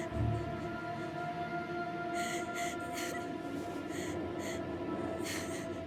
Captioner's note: crying